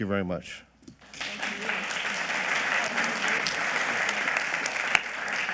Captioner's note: audience clapping